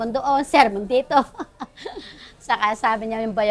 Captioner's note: laughs